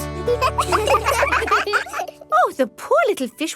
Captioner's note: children laugh